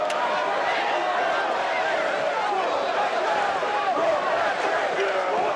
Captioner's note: audience cheering